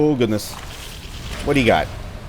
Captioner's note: geiger Counter going nuts